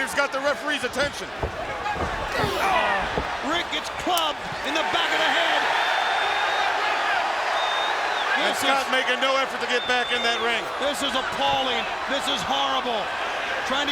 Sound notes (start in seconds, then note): 5.9 audience cheers